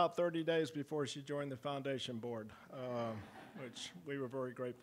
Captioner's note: audience laughing